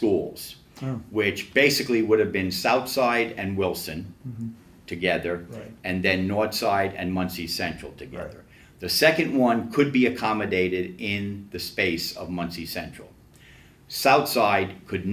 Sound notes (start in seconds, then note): none